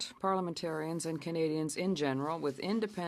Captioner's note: speaking French